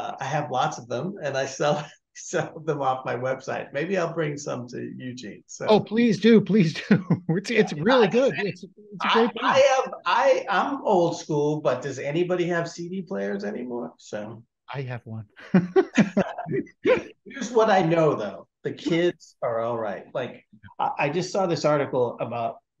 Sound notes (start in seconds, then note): 15.4 laughs